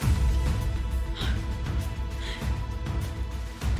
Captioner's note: gasps